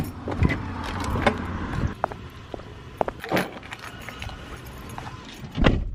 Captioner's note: doors opening; footsteps; car door closes